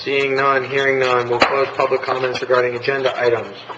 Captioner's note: gavel strike